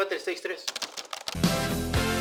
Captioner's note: typing intensifies